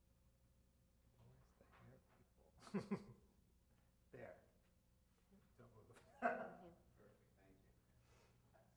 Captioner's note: laughs